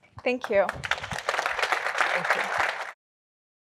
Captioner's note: applause